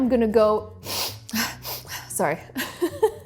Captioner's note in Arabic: الشهيق